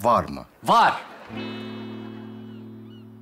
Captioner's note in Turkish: Gülme efekti